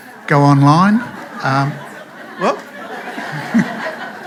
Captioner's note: laughter